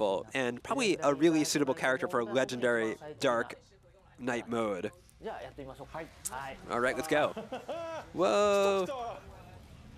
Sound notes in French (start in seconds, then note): 7.2 rires